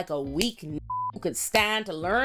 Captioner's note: beep